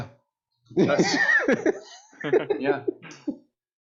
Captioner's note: laughter